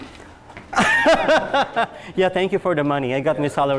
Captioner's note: laughs